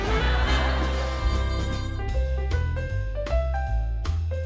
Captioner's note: audience laughing